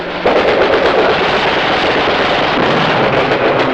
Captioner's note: guns shooting